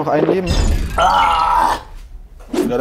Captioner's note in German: Er stöhnt